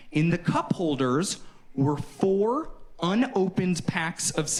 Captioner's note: none